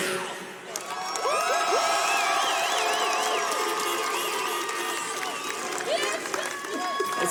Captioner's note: shouting and clapping